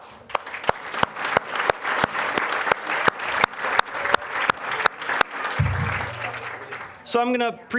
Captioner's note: applause